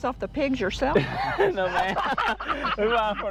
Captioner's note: all laugh